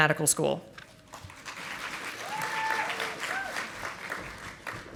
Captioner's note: audience applauding